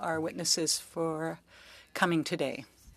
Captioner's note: speaking French